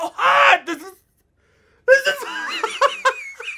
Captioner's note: laughs